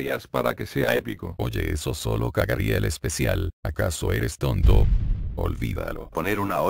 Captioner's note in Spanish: Explosión